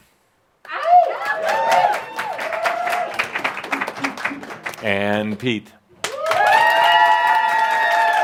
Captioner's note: a few howls and claps; lots of applause